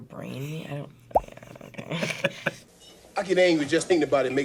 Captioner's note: laughs